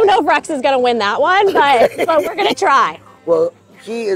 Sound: laughs

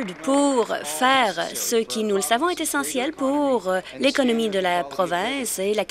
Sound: applause

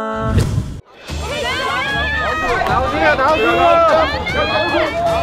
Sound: screaming fans

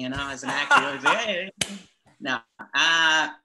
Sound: laughs

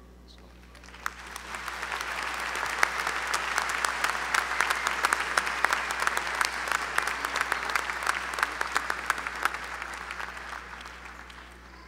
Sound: applause

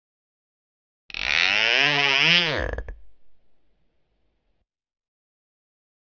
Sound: sound of floor squeak

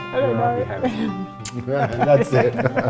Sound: kissing sound; laughter

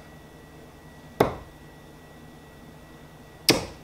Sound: thuds

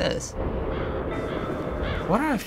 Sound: crows cawing

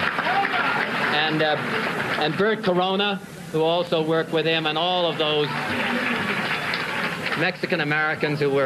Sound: cheers and applause

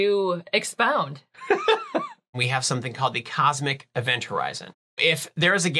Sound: laughing

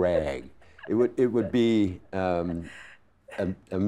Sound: laughing

